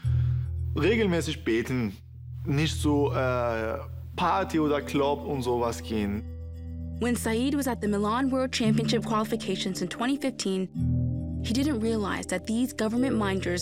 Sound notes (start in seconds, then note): 6.4 in English